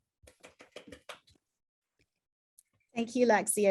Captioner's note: keyboard typing